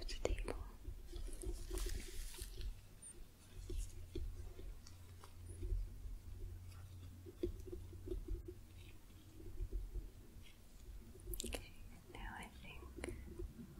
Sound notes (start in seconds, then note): 1.4 light tapping, glove sounds